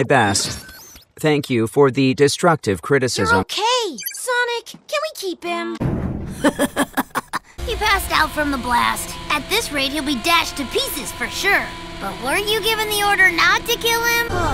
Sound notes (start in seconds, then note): 6.3 fucked up and evil little giggle